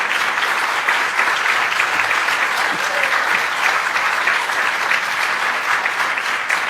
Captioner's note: applause